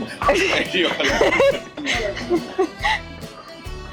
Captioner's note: laughs